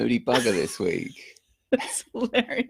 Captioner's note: laughter